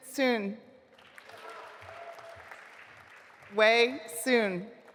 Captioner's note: audience applauding